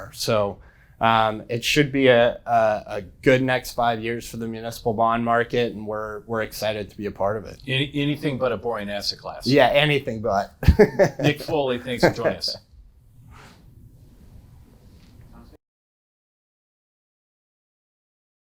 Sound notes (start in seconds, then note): 10.6 laughing